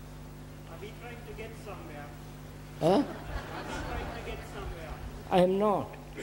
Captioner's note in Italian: risate